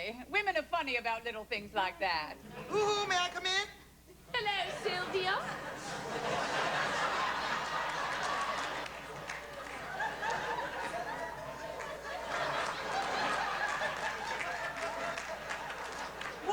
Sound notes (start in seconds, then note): 4.7 laughter